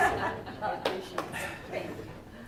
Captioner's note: laughs